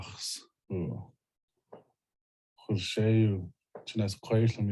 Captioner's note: Salish language spoken